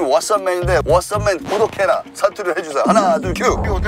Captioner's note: dialect